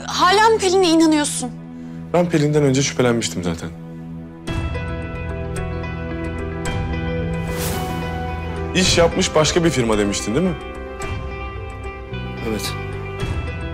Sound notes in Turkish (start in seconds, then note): 4.4 Müzik - Gerilim; 7.5 Efekt sesi